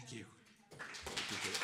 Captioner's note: applause